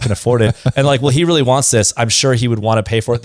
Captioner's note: laughs